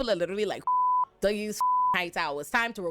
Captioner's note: beep